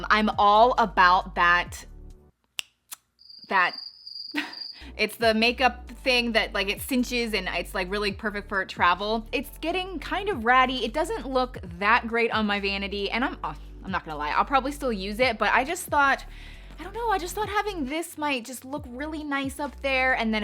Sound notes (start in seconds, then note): 3.2 crickets chirping; 4.3 chuckles